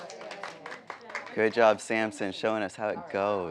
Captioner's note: people clapping